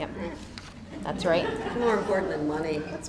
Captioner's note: laughter